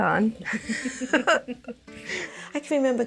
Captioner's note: laughing